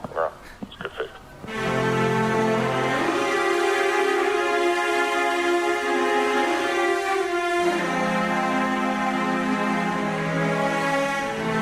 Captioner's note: muttering